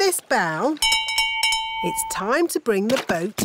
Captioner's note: bell rings